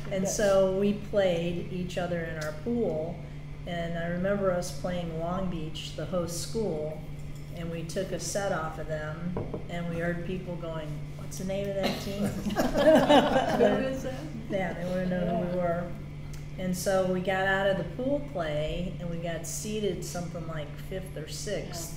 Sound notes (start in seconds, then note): 12.2 all laugh